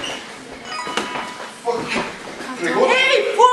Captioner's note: email sound